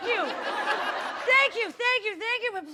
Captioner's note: laughter